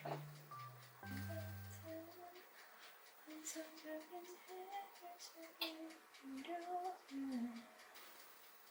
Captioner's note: humming